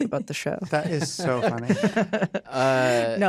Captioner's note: chuckling